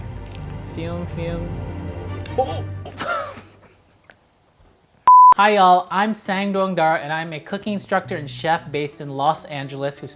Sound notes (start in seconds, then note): 0.0 dramatic music; 2.1 laughing; 5.0 beep